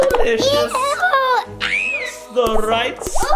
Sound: screaming

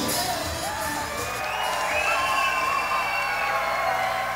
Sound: audience cheering

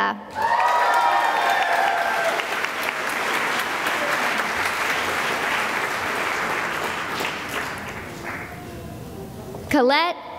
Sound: cheering and applause

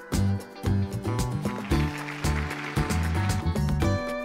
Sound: applause

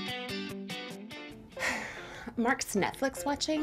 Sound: sigh

